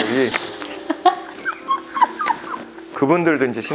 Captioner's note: laughter